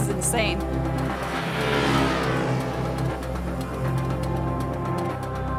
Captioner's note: motorcycle engine roaring